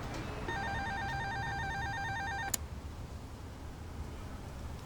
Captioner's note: buzzer ringing